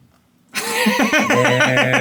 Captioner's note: laughing